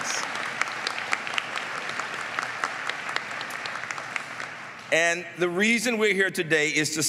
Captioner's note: applause